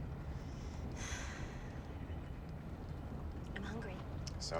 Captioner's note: sighing